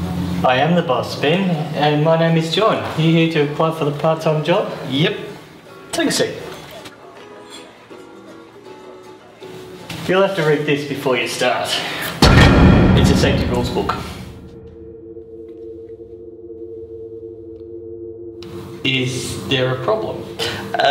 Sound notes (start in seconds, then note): 12.3 book thuds loudly